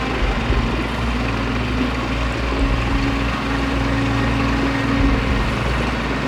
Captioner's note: engine rumbling; high intensity music